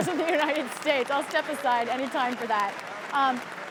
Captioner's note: laughter